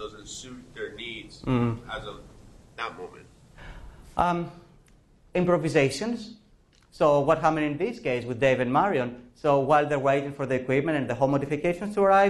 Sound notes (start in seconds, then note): 4.2 professor speaking